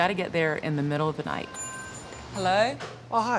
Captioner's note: bell tinkling